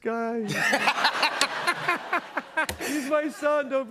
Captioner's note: laughter